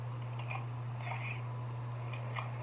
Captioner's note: Luxo Jr. Groans